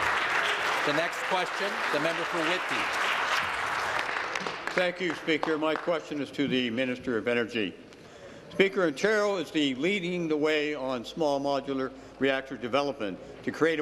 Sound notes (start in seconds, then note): 3.2 applause